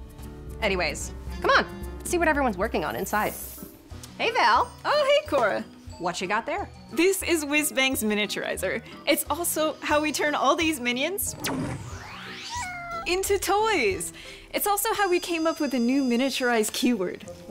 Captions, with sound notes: Anyways, come on. Let's see what everyone's working on inside. -Hey, Val. -Oh, hey, Cora. What you got there? PRINCIPAL LEAD NARRATIVE DESIGNER This is Whizbang's miniaturizer. It's also how we turn all these minions... [Tigress roars] -[Tigress meows] -...into toys. It's also how we came up with the new Miniaturize keyword.